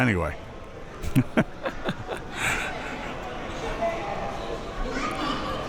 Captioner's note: laughing